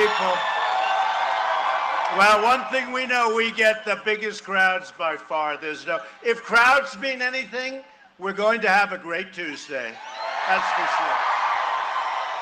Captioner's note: cheering and applause